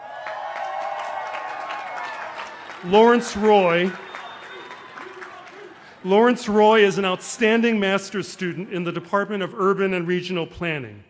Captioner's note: cheers and applause